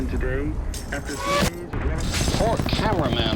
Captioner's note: firing